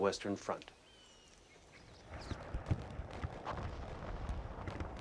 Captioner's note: birds chirping